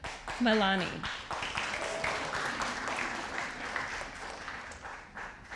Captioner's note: audience applauding